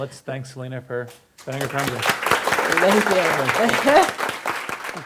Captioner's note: audience applause